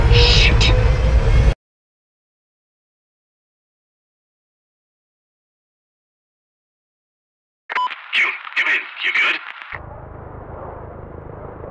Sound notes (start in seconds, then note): 0.0 machine starting; 1.5 audio cuts